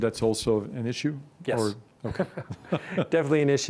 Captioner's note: laughing